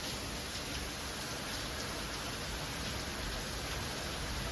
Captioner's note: storm noises